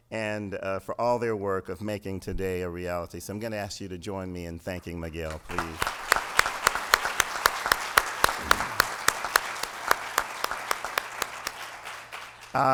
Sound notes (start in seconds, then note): 8.0 applause